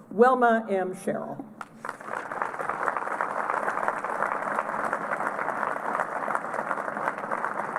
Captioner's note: applause